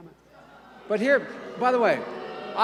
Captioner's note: boos and hissing